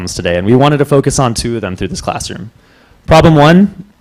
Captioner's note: none